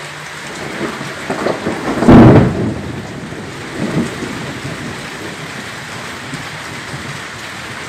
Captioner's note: thunder crashing